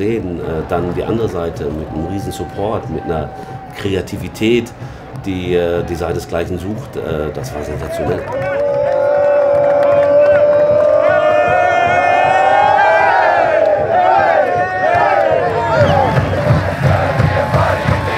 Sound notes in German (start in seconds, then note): 10.1 Jubel